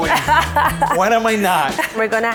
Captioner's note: laughs